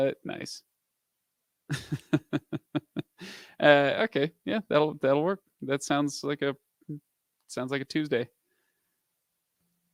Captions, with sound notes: Nice. (laughs) Okay, yeah. That'll work that sounds like a, sounds like a Tuesday.